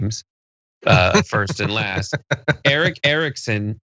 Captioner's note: laugh